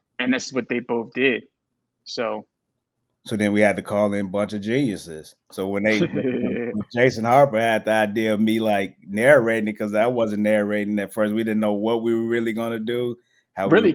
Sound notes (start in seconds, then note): 5.6 group laughs